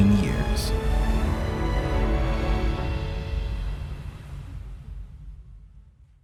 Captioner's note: roar of the ocean as the ship plows through it